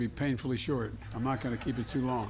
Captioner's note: laughter